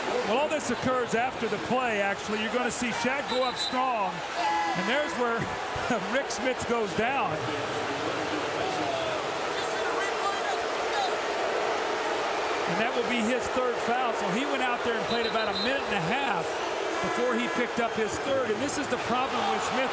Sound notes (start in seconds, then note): 9.5 crowd booing